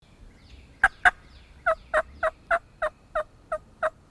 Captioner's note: turkey call